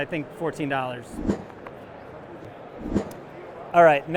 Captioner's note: air whooshing